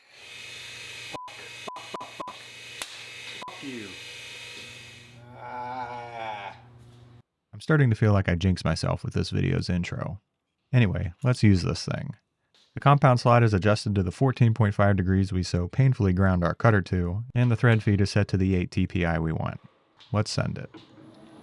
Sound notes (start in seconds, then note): 0.0 machinery whirring; 1.2 beep